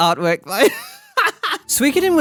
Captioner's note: laughs